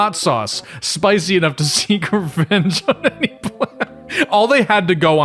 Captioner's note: laughs